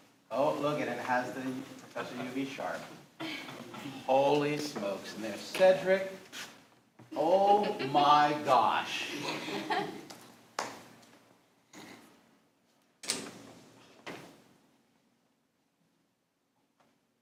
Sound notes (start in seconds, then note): 3.1 others laughing; 9.0 others laughing